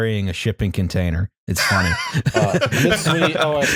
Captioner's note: laughs